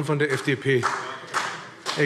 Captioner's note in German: Beifall BÜNDNIS 90/DIE GRÜNEN